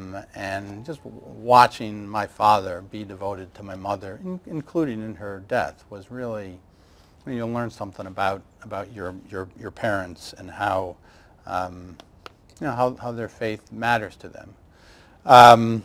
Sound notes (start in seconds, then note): none